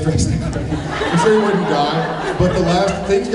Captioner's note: laughing; laughs